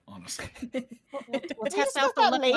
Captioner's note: laughs